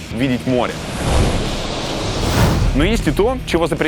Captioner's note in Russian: Шум морских волн